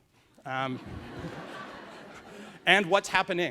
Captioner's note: laughs